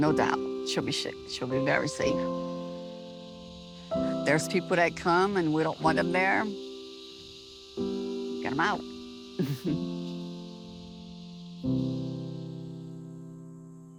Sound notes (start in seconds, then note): 9.1 chuckles; 11.2 soft piano music playing